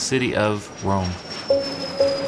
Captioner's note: airplane engine